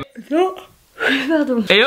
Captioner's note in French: Bâillements